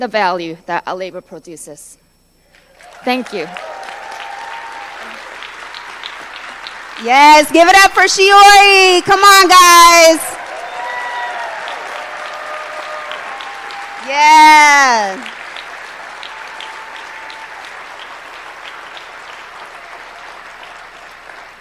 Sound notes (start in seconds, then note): 10.1 applause